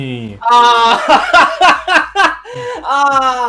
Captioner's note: laughs